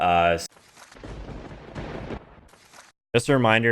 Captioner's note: lightning striking